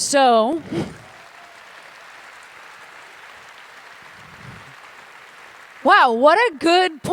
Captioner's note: applause